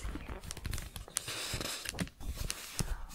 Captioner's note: shuffling paper